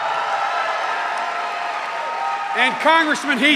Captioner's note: cheers and applause